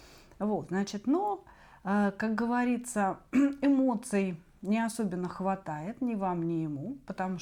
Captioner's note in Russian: откашливается